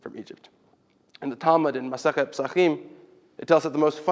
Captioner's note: Hebrew